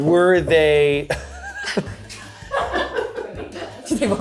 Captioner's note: and crew laugh